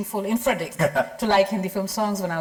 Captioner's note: chuckles lightly